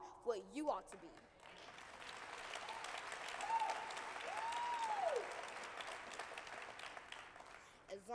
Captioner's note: applause